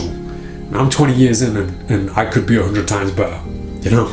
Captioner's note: laughs